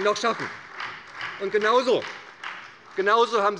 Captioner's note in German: Beifall bei der SPD